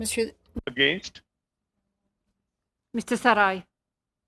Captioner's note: speaking in French